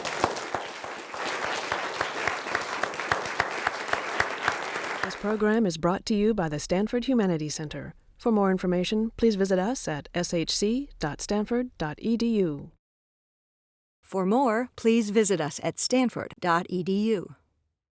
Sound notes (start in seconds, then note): 0.0 applause; 5.4 voiceover